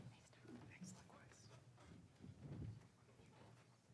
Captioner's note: speaking faintly